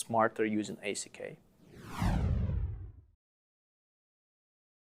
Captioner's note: whooshing